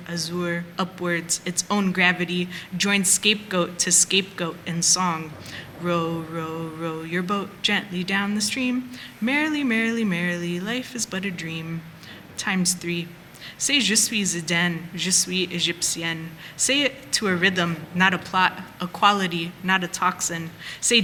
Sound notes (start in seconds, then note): 14.1 speaking french